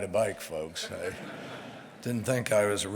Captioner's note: laughter